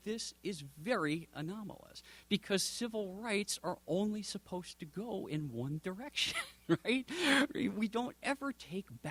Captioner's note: chuckles